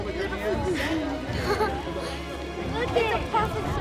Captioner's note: people talking in background